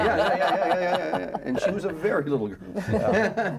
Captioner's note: laughs